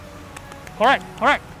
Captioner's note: applause